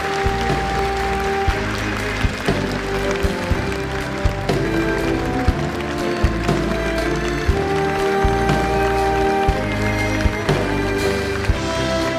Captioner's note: applause